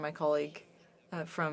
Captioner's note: speaking FRENCH